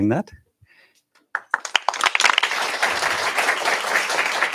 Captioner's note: applause